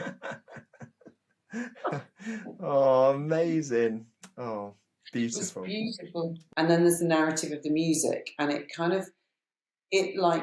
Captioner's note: laughs